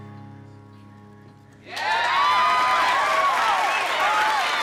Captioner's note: crowd clapping and cheering